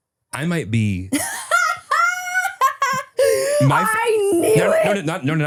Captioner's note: laughs